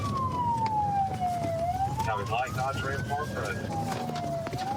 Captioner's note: sirens wailing